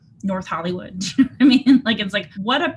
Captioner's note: chuckles